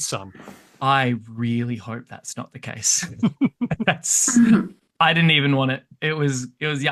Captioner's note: laughs